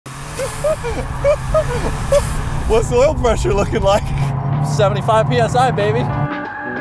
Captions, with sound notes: (engine revving) (laughing) - What's oil pressure looking like? - 75 PSI, baby.